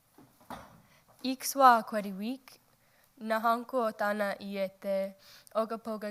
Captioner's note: woman speaking in foreign language